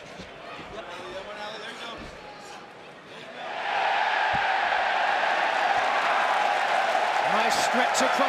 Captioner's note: crowd chatter